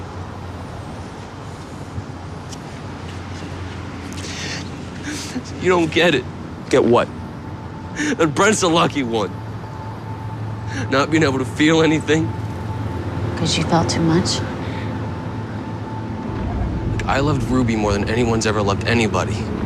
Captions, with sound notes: [crying] See, you don't get it. Get what? That Brent's the lucky one. Not being able to feel anything. 'Cause you felt too much? Look, I loved Ruby more than anyone's ever loved anybody.